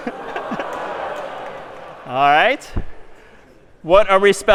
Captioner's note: می خندد